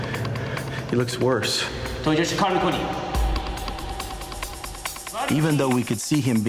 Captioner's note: non-english speech